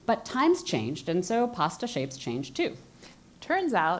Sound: none

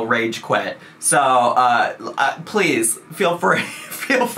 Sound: laughs

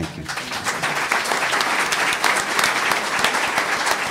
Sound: applause

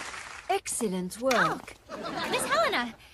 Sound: gasp

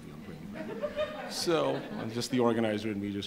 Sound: audience members laugh

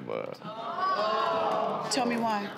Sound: audience groans

